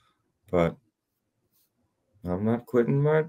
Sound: voice gets higher

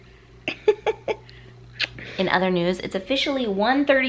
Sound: giggling

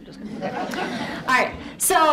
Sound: audience laughs

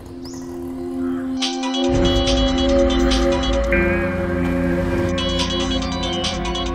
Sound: phone ringing

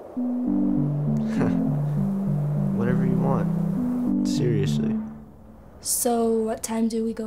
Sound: laughs

